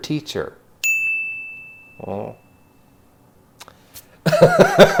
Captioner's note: bell rings; laughing